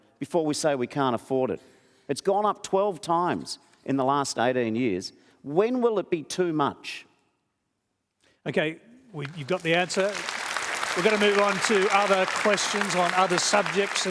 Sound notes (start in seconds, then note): 9.1 applause